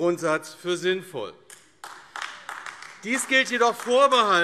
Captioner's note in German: Beifall AfD